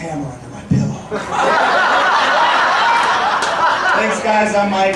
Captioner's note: audience laughing